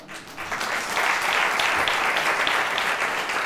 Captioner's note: applause